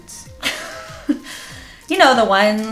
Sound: laughs

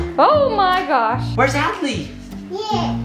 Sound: murmurs

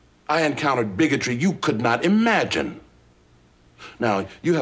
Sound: none

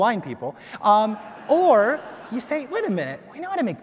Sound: audience laughs

